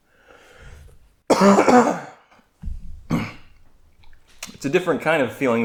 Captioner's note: more coughing